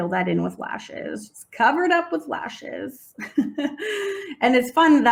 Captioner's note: laughs